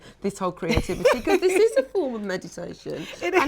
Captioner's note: laughs